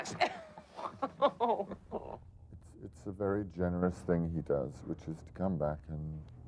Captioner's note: laughing